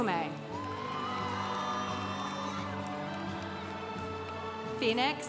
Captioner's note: congregation cheering